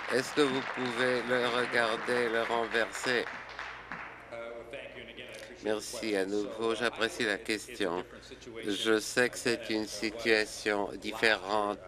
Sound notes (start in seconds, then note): 4.3 applause